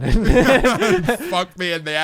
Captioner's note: both laughing